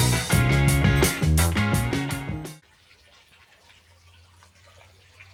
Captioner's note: water splashing